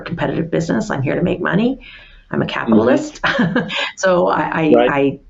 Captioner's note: laughs